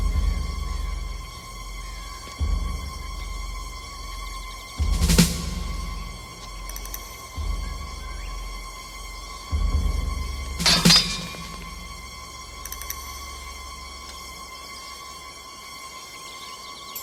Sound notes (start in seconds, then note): 10.6 swords clank